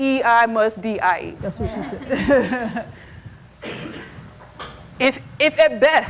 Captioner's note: laughs